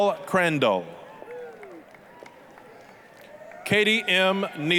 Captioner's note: applause, cheering